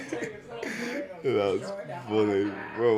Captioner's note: laughs